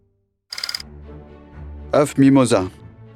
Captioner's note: slide rolling